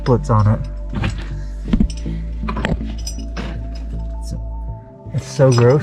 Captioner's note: metallic clinking; thumping